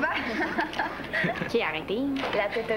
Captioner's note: Rires